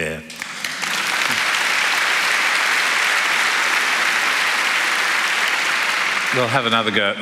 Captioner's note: applause